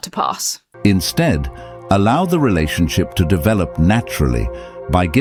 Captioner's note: AI Voice